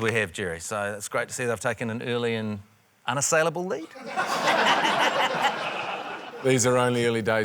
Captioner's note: laughter